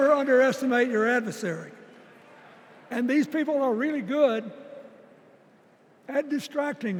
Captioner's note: applause